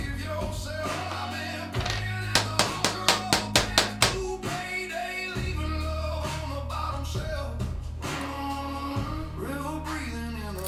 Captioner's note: spark sounds